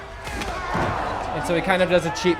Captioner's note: crowd gasps